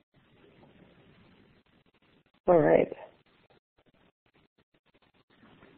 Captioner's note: silence